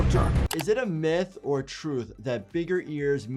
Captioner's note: dramatic music; keyboard keys clicking